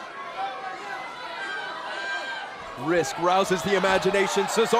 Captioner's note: crowd chatter